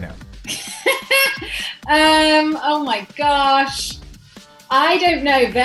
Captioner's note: laughs